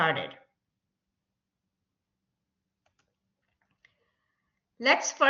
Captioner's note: silence